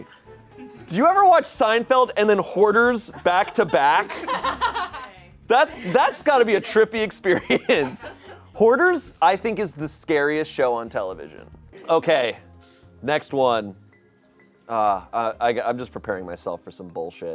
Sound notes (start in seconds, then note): 2.8 audience laughing; 7.1 laughs